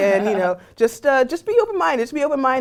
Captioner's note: laugh